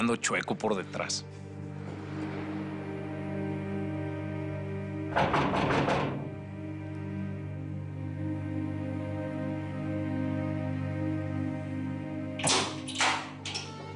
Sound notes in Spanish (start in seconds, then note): 5.1 Ruido al golpear la puerta